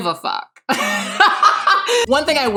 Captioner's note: laughing